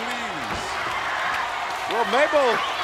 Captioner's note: applause